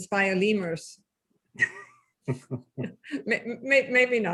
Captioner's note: laughing